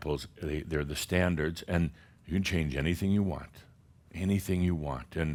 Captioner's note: none